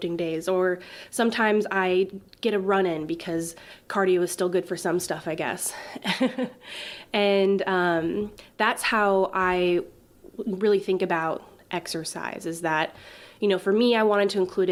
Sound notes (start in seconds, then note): 5.9 giggles